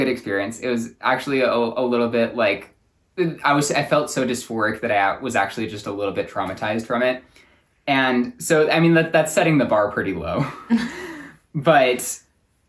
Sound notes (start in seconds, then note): 10.4 both laugh